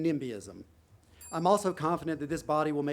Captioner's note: bell dings